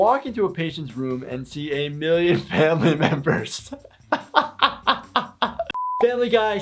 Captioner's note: laughs